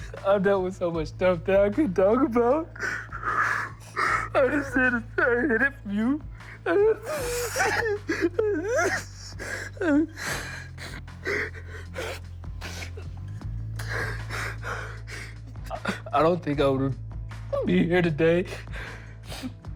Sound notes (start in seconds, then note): 6.8 sobbing